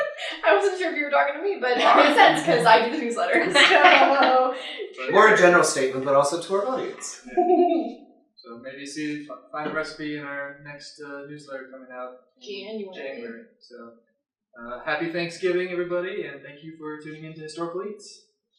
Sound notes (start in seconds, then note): 7.6 giggle